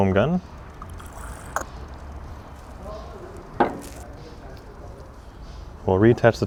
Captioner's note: liquid gurgling; plastic thudding